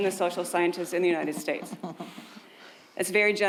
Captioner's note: someone chuckling